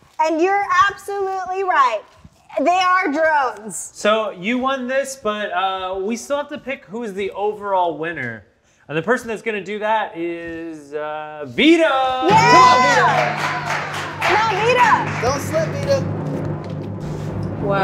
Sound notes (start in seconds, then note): 12.2 applause